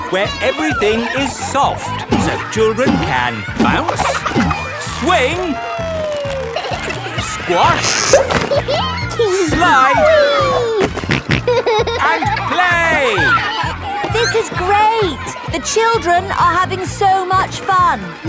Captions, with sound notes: Where everything is soft, so children can bounce, -swing... -Whee. -Squash... -(GIGGLES) -Slide... -(SNORTING) And play! This is great! The children are having so much fun!